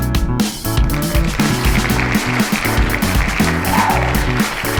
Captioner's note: clapping and whooping